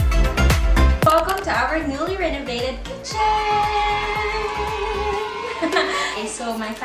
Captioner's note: laughs